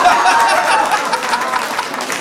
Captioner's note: laughter